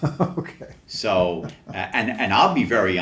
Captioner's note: laughs